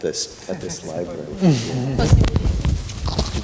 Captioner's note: laughter